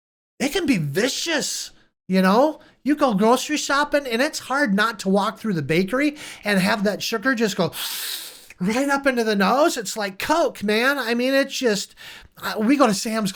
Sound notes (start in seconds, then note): 7.7 inhales